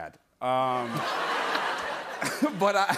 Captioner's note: laughter